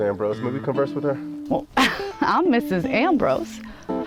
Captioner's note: laugh